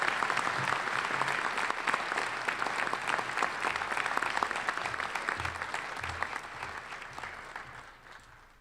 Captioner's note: applause